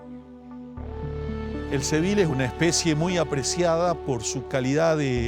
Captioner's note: speaking Spanish